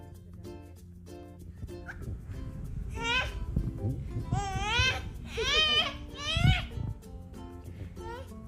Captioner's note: baby sounds